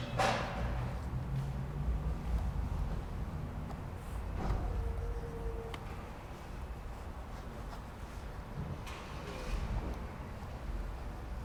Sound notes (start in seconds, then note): none